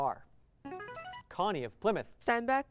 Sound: buzzer

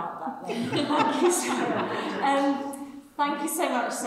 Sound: people laugh

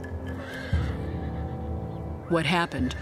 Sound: horse neighs

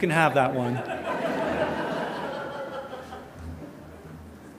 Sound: audience laughter

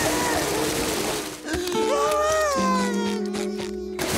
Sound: crying

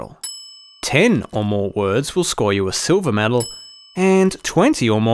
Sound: bell dings; bell dings

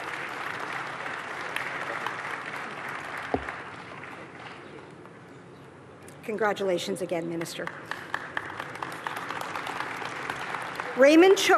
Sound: applause

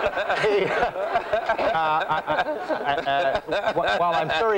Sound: laughter

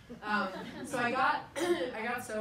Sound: people laugh

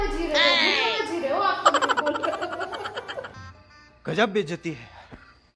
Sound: laughter

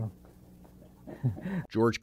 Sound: laughter

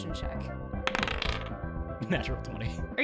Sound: dice rolls

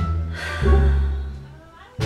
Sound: sigh

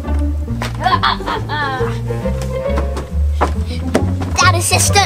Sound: Evil Assistant laughs

